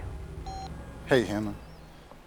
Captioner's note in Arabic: صوت تنبيه الجهاز